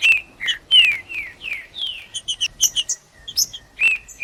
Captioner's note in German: trinca ferro cantando